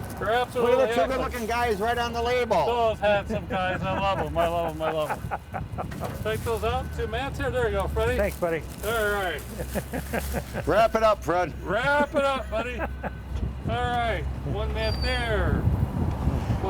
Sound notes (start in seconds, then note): 2.5 chuckles